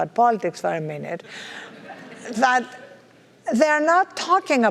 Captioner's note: laugh